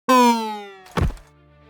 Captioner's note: horn blares